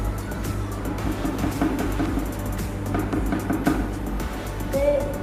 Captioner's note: spoon tapping